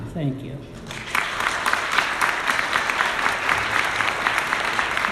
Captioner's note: audience applauding